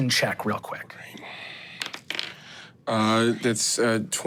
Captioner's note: dice rolling